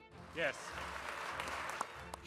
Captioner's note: applause